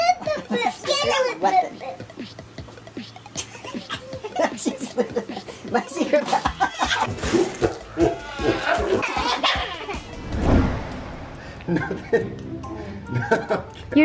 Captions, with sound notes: - My secret weapon. (baby babbling) (laughing) Nothing, nothing, okay.